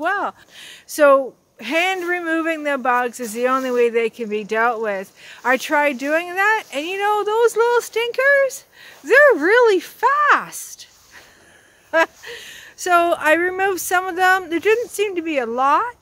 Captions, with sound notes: So hand removing the bugs is the only way they can be dealt with. I tried doing that, and you know those little stinkers they're really fast. [laughter] So I removed some of them. There didn't seem to be a lot.